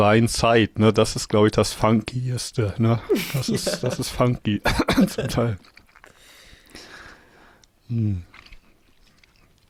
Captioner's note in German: gelächter